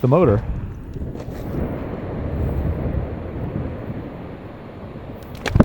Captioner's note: glacier ice falling